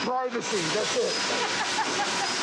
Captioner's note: laughs